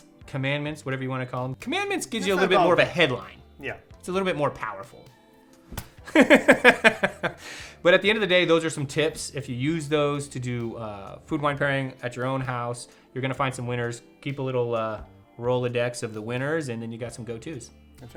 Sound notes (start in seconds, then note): 5.7 fist thudding; 6.1 laughing